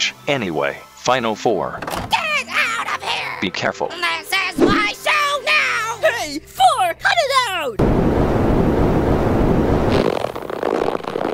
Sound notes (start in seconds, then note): 7.8 wind gushing noise; 9.9 stretching sound